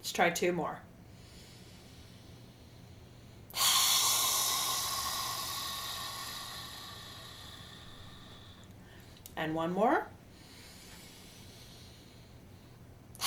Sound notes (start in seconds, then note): 1.7 inhale; 3.5 loud exhale; 10.4 inhale